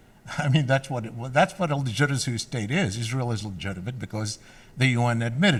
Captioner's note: laughs